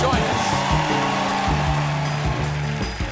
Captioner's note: cheers and applause